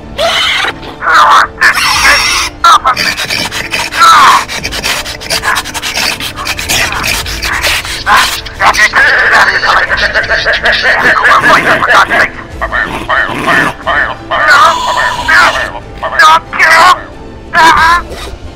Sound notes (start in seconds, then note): 0.0 bird Sounds; 3.3 bird Sounds